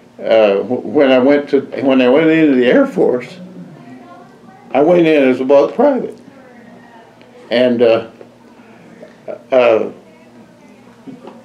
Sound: laughs

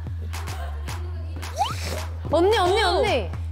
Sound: puff

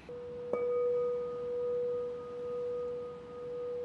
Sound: bowl rings

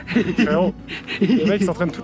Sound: laugh

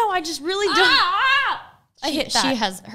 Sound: yells

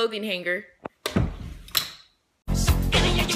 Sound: clothing hanger noises

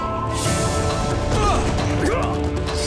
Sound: grunting

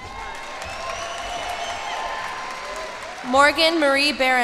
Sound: cheers and applause

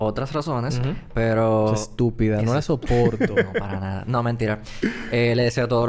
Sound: laughs

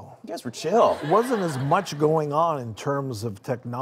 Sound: laughing

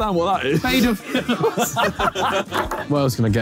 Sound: Sidemen laughing

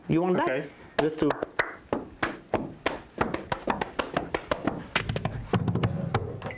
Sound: clapping and pounding rhythmically

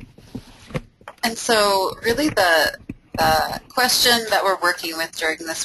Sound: voiceover

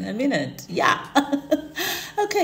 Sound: chuckles

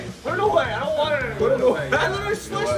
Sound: laugh

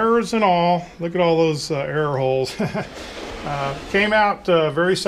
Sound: chuckles

